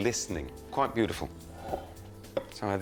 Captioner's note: bowl rustles